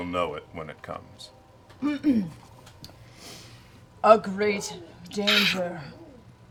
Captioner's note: clears throat